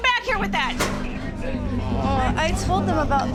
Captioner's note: groans